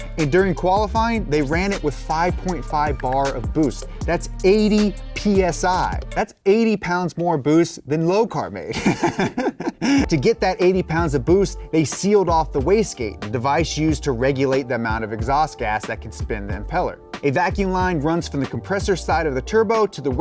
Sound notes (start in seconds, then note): 8.7 laughs